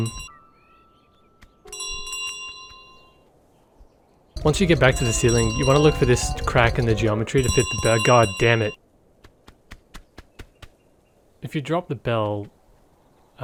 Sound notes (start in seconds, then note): 1.7 bell ringing; 2.9 bell not ringing